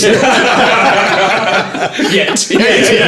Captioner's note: all laughing